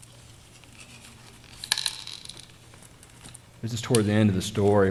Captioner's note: paper creaking open